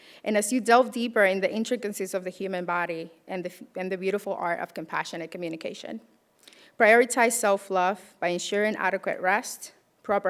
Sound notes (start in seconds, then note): none